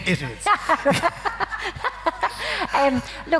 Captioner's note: laughing